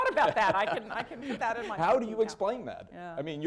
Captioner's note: laughter